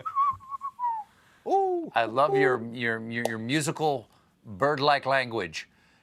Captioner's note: whistling